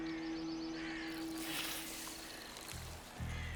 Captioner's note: sizzling